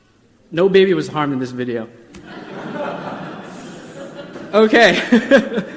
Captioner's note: audience laughter; laughs